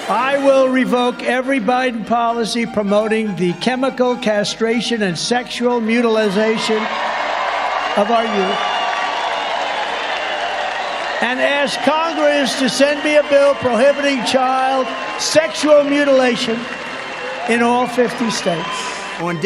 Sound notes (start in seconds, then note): 9.1 crowd cheering